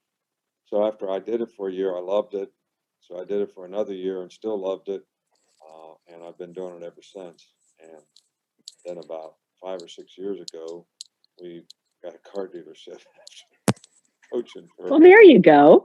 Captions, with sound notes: So after I did it for a year, I loved it. So I did it for another year and still loved it. And I've been doing it ever since. And then about five or six years ago, we got a car dealership (laughing). - Well there you go.